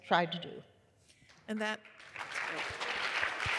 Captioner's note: applause